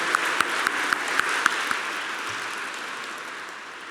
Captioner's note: applause